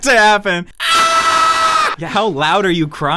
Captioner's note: screams